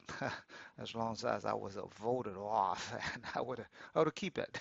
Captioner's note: laughs